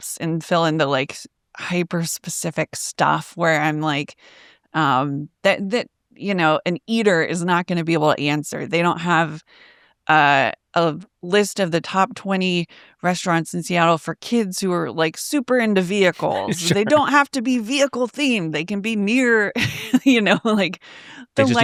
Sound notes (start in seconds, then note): 16.2 laughs; 21.3 chuckles